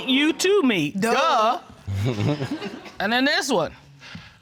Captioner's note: chuckles